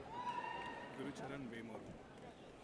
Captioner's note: audience cheers